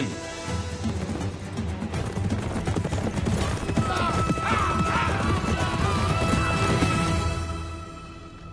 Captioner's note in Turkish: Nal sesleri